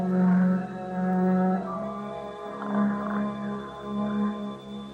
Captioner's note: snoring